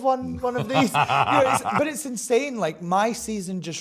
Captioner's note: laughs